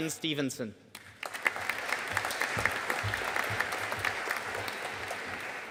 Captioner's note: audience applauding